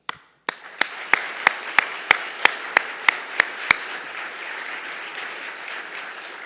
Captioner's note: audience applauding; applauding